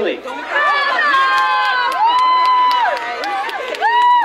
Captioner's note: crowd cheering